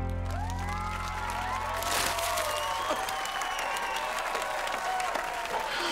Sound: cheering, applauding

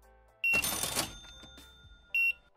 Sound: cash register dings; beeping

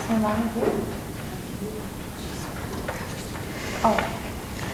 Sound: murmuring

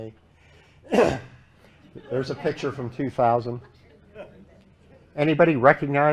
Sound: laughter

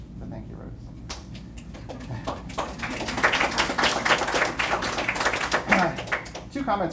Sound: applause

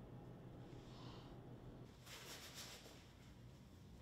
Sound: Sock gasping for air

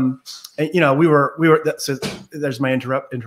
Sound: door closes

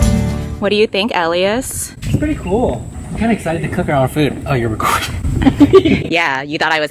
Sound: laughs

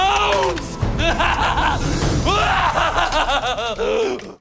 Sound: laughing hysterically

